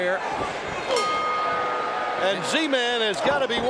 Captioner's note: bell ringing